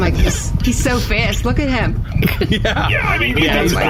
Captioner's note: snickers; laughing